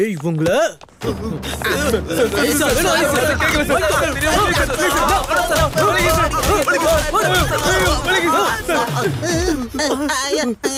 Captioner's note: indistinct shouting